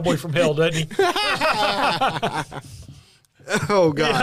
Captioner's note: laughter